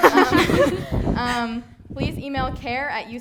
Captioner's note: all laughing